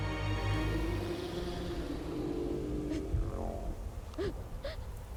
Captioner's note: creature vocalizing